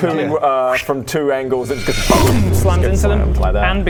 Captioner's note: boom!